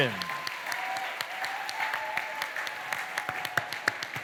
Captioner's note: cheering, applause